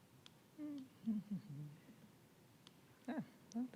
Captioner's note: humming